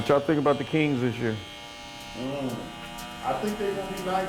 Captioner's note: razor whirring